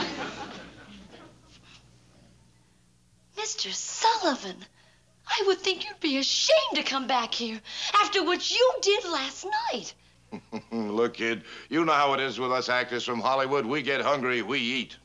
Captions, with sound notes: Mr. Sullivan! I would think you'd be ashamed to come back here after what you did last night! (chuckles) Look, kid. You know how it is with us actors from Hollywood. We get hungry, we eat.